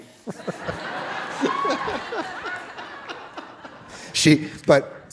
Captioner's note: audience laughing